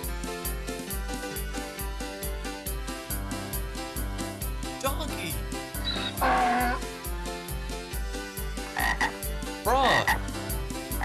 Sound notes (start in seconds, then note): 5.7 brays; 8.6 croaks